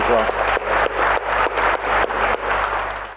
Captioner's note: applause